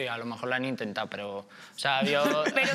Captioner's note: laughs